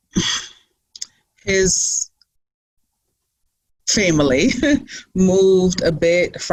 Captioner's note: laughs